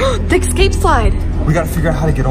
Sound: gasps

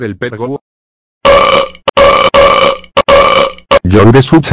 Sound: loud burping

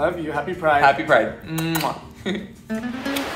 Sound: uptempo cheery music; lips smacking; laughs; waves whooshing

